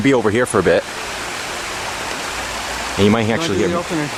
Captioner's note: running Water & People Talking